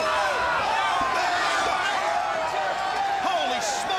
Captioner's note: crowd chattering